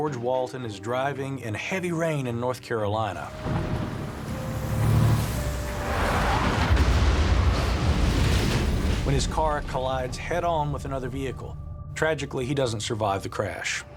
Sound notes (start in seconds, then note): 6.0 bang; 6.0 tires screech